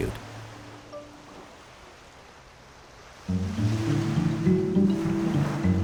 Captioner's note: gently lapping waves